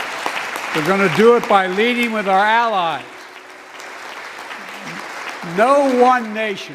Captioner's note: applause